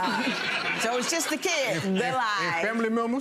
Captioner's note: crowd laughing